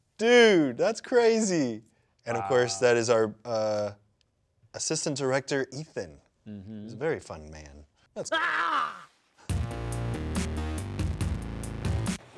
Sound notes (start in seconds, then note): 8.2 screams; 9.6 upbeat music